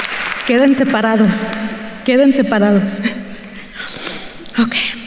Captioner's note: speaking in Spanish